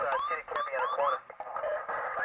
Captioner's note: siren Chirps